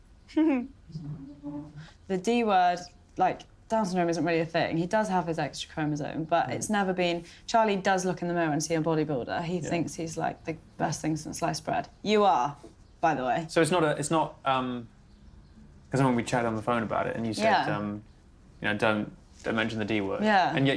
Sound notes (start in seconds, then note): 0.3 giggling